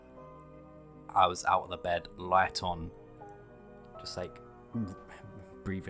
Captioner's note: gagging noise